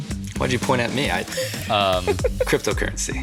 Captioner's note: laughs